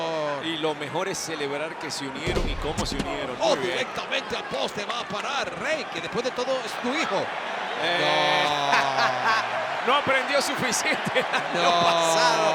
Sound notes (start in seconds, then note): 8.2 laugh